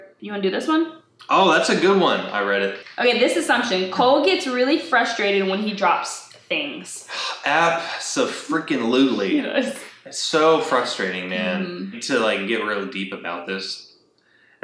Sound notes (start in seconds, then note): 7.1 sighs